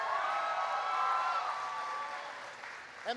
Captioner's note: applause